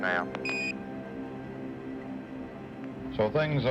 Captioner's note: beeping